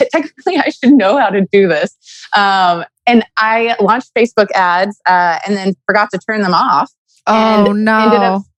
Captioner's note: laughs